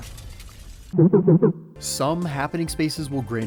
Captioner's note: capsule Machine Noise